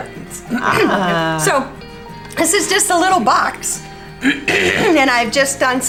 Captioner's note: clears throat; clears throat